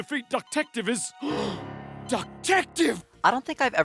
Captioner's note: gasp